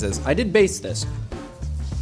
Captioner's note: none